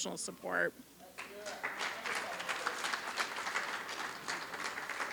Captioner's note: applause